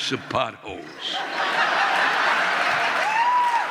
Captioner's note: audience laughing